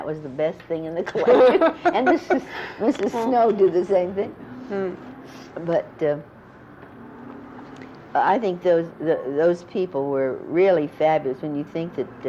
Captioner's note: laughter